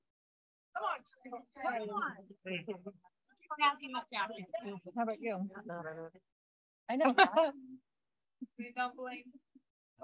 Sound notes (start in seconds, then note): 0.0 background conversations; 7.0 laughter